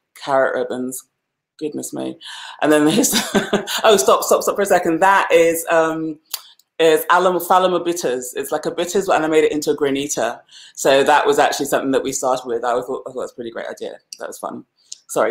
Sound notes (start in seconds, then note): 2.8 laughs